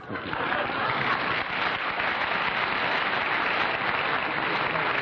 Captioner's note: applause